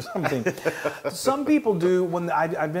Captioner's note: laugh